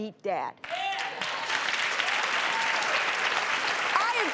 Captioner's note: audience claps